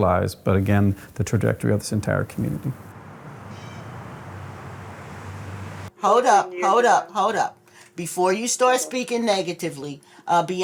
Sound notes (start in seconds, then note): 1.9 traffic rumbling